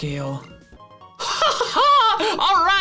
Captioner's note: laughs